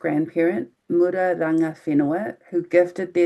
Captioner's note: speaking in foreign language